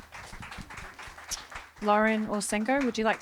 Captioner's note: applause